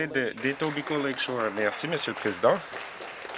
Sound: some Applause

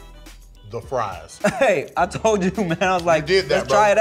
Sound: laughs

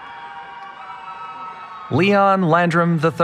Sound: cheering

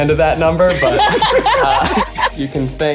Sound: laughing

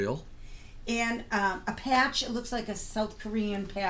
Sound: voiceover

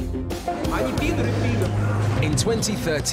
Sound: speaking in foreign language

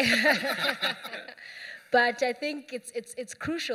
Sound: laughter

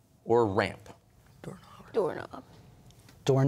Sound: whispering; quietly

